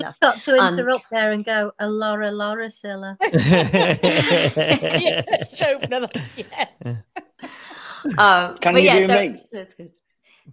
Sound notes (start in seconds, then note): 3.2 group laughing; 7.3 laughs